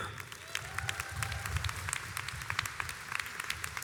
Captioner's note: crowd applauds